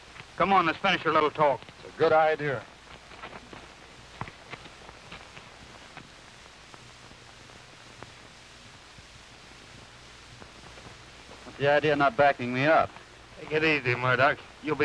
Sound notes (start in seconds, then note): none